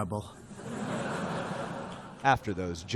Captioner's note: laughter